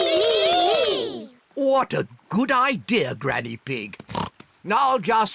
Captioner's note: oinks